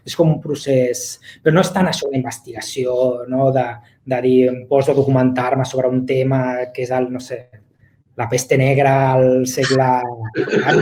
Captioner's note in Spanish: risas